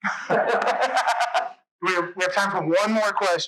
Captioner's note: laughs